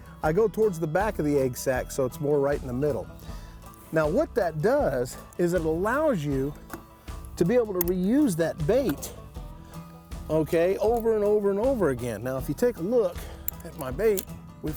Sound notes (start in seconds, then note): none